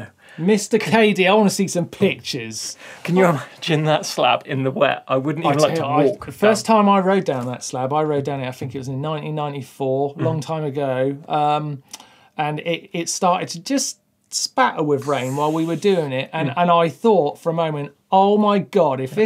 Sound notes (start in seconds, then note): 15.0 hisses